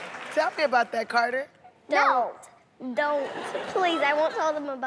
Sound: audience "Ohh"s

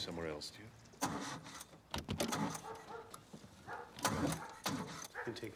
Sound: engine chugging

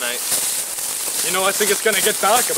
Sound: leaves rustling

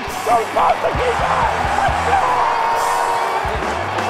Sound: cheers and yells

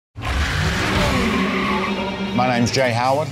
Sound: engines roar

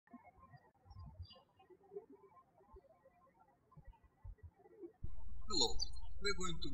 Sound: birds chirping

